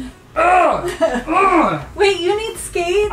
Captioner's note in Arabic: همهمتس